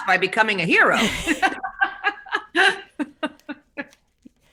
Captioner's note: both laugh